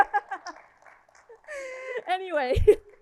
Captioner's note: laughing